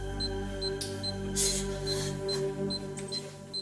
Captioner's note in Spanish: Bips